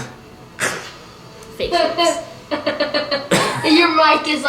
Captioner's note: laughs